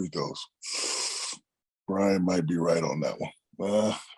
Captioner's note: sucks air